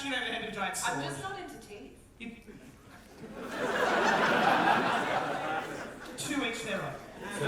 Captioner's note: audience laughter